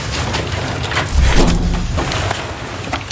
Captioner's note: sound of energy barrier crossing